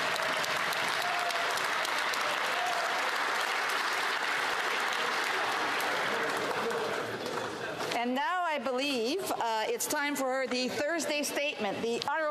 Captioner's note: applause